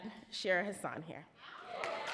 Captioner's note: audience cheer and applaud